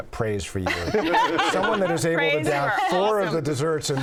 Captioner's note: laughter